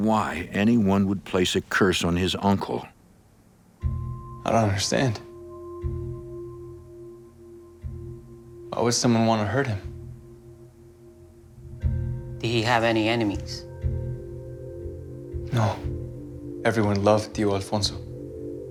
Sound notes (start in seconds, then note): 16.5 speaking Spanish